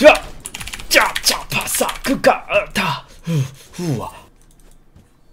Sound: desparate sounds

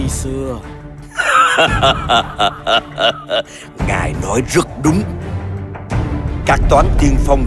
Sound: laughing

